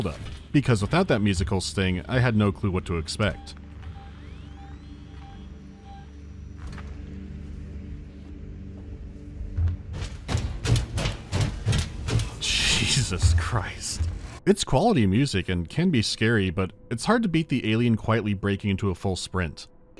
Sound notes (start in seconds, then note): 3.7 featureless ambient hum; 9.6 fast, heavy stomping